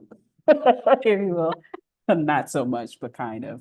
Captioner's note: laughter